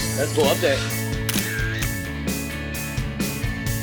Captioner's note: camera shutters